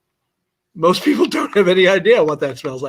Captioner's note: laughter